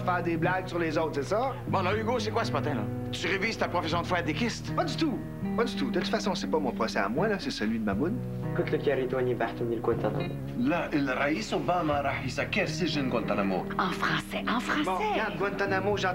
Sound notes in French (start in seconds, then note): 9.2 En arabe